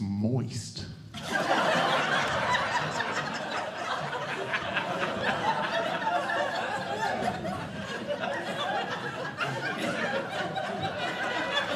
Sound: audience Laughing

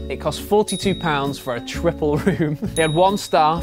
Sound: laughs

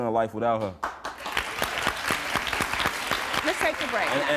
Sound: applauding

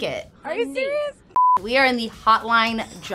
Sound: screen beeping

